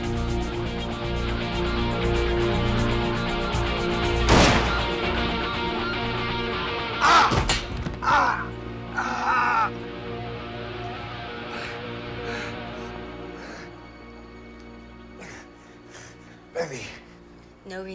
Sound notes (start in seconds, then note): 4.2 gun firing; 6.9 grunting